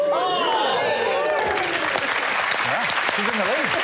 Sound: cheers and applause; applause

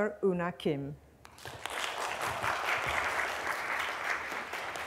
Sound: applause

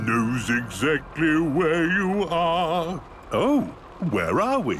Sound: mimicking tune

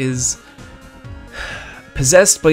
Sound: sighs

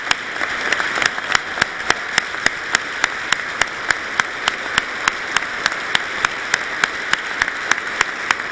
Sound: applause

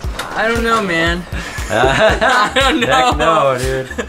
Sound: laughs

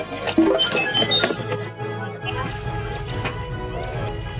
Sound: Grindr urgently chirps

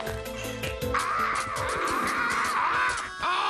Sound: cawing

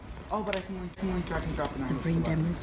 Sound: whispering

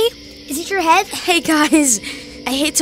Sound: laughs nervously

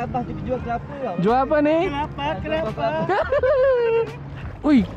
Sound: laugh

